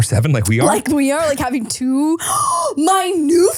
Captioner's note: gasps